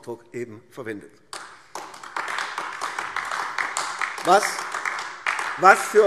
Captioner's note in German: Beifall AfD